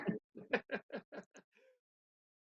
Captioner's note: laughter fades out